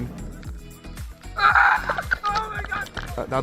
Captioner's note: screaming